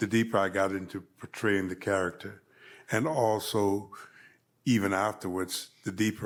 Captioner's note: none